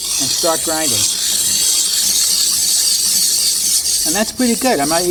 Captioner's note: ice screeching